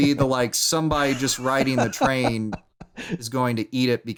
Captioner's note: laughs